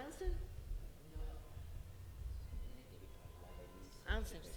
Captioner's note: speaking in Italian